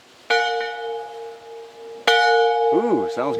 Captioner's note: bell ringing